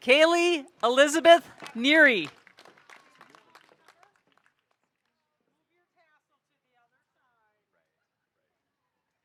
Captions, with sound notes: Kaely Elizabeth Neary. (audience applauding)